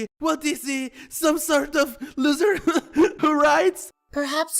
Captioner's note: laughs